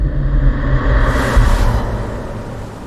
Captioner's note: water splashing